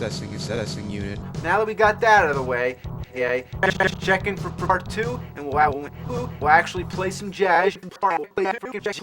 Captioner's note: glitching